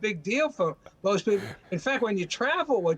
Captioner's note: laughter